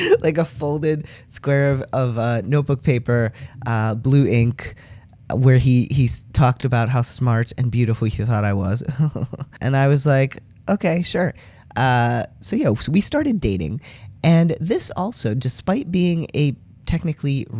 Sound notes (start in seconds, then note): 8.9 jokingly smug laugh